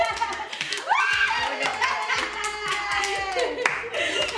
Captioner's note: laughter; screaming; applause